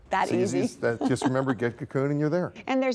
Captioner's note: laughter